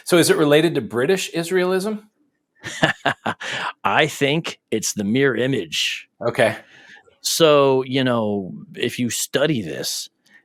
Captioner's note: laughs